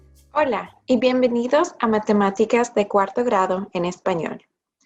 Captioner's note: speaking in foreign language